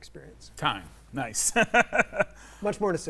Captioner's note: laughs